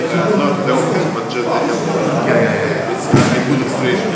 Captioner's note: speaking in a foreign language